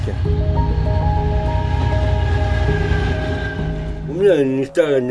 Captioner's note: sound of a passing train